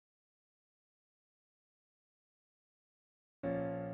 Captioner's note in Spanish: Silencio